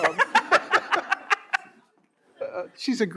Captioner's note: all laughing